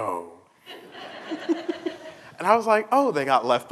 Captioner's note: laughter